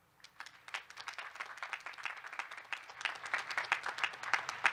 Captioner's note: students clapping